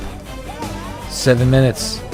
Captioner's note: crowd cheers